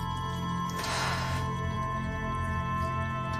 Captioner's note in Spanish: Suspiro